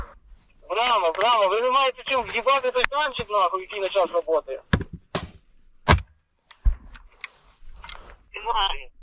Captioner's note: radio chatter